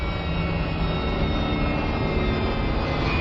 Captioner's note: plane whirs